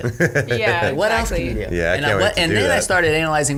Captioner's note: chuckles